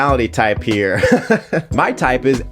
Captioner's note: chuckling